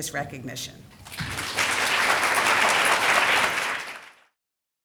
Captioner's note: people applauding